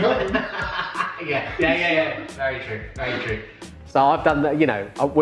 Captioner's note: laughs